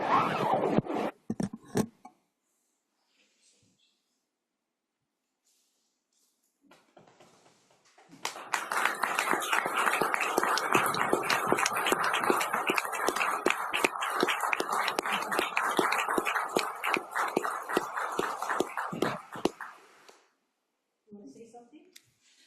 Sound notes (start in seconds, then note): 8.1 applause